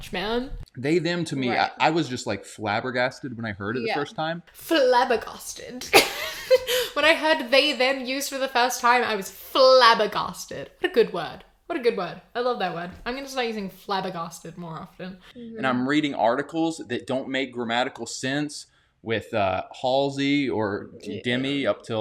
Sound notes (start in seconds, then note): 5.9 laughs